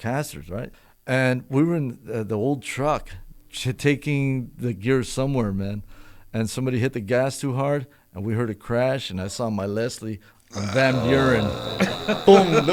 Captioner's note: laughter, moaning